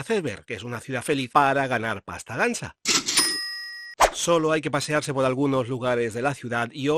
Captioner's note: sound of money